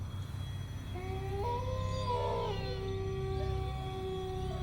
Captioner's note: wolf howling